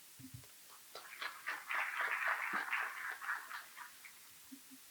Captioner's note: applause